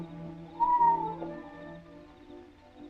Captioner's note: whistling call